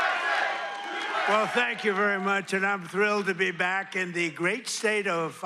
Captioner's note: crowd chanting "usa